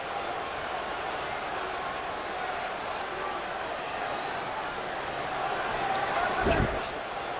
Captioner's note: applause